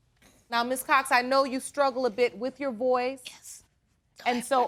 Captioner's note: hoarsely